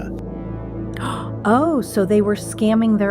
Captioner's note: gasps